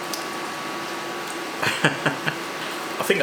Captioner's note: laughs